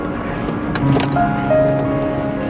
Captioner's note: click